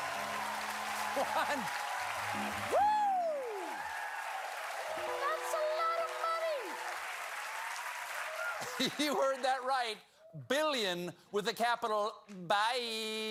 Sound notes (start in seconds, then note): 8.0 cheers and applause